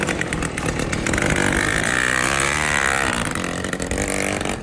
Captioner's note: engine sound